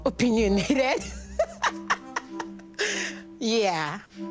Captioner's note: laughs